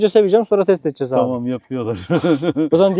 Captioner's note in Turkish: kahkaha